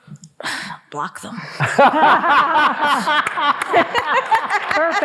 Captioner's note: all laughing